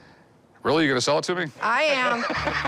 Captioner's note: laughs